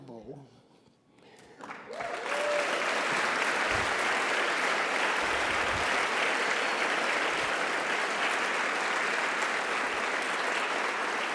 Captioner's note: applause and Cheers